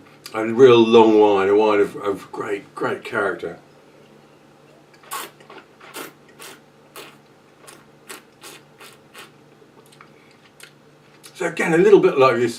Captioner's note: slurping